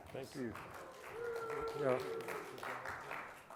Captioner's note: applause